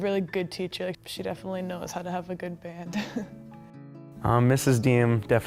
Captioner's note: laughing